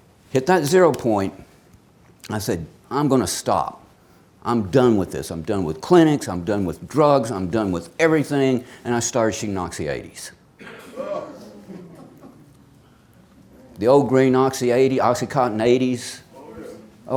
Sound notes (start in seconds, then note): 10.9 audience exclaims